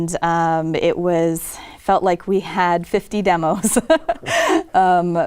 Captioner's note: laughs